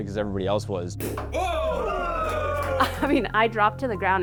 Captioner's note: cork pops